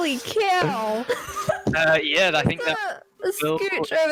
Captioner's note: giggles